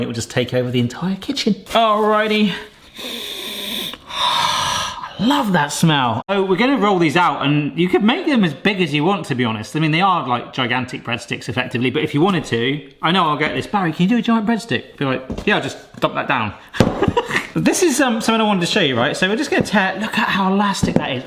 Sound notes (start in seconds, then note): 2.9 inhales deeply; 2.9 sighs; 17.1 laughs